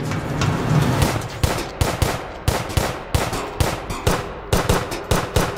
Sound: gunshots ring out

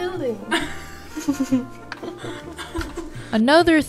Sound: laughing

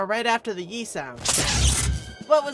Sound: laser shot

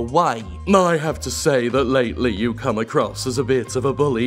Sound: smug voice

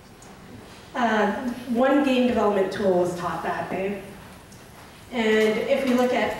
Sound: voiceover

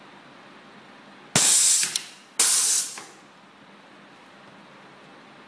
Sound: pneumatic hissing

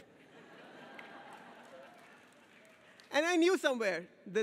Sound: audience cheers and laughs

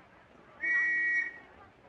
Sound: whistle blowing

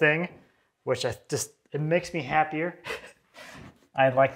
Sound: laughs

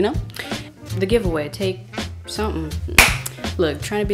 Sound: claps

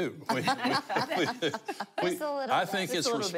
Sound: laughing

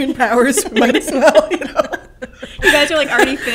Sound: laughter

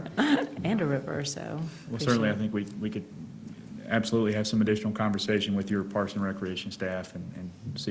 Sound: laughter

